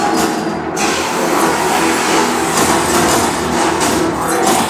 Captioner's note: explosions booming